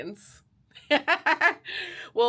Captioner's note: laughs